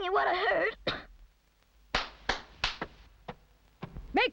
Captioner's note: clapping